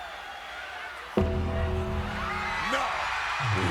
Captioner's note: crowd cheers; bell tolls